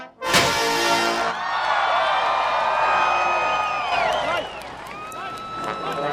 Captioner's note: audience cheering and clapping